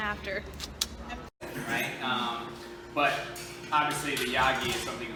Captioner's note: professor talking